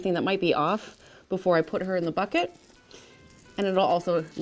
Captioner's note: milk splatters